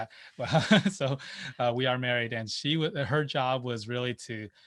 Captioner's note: laughs